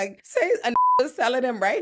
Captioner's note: beep